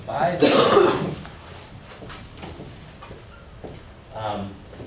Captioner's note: coughing